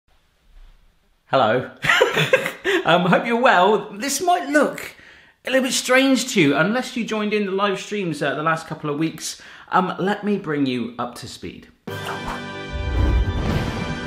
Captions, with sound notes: - Hello (laughing) Hope you're well. This might look a little bit strange to you unless you joined in the live streams, the last couple of weeks. Let me bring you up to speed.